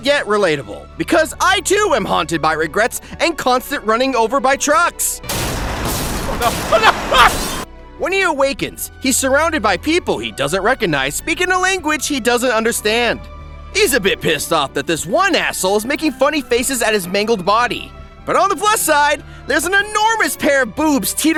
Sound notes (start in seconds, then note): 5.2 crash; 6.3 Grimmjack yelling